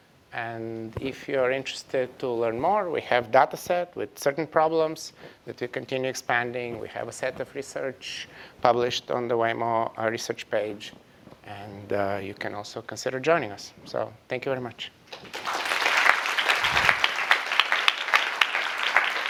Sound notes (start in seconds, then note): 15.1 applause